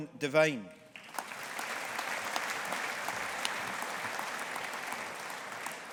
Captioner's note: audience applauding